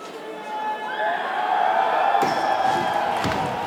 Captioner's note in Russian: толпа ликует